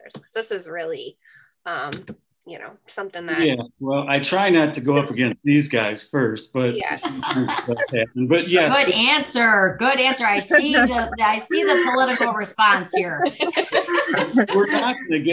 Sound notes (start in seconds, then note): 6.5 laughs; 13.3 all laugh